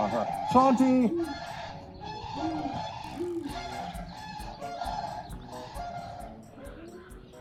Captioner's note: geese honk; owls hoot